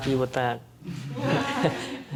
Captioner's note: audience laughing